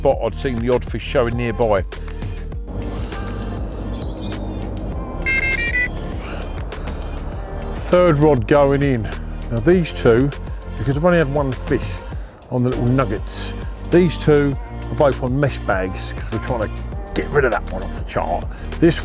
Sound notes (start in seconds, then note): 5.2 electronic beeping